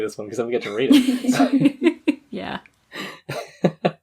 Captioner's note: laughs